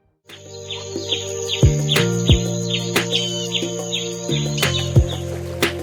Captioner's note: birds chirping